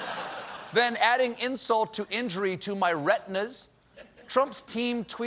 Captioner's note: laughter